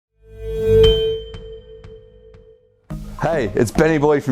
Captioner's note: bell chiming